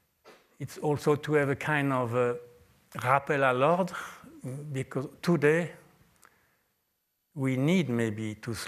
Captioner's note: french